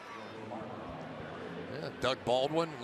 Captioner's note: pa announcement